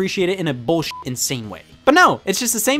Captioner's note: beep